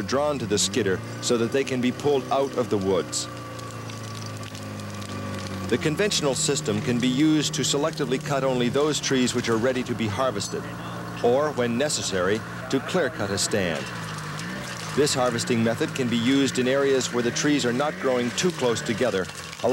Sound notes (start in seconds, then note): 3.8 engine revving; 3.8 wood cracking